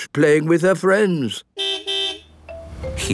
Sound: car beep

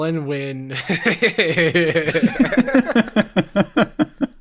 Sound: light laughter

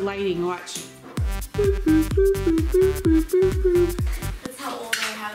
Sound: disco music; beeping noise

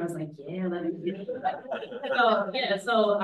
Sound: audience laughs

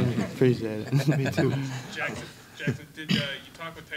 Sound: laughing

